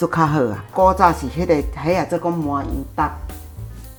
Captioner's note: Taiwanese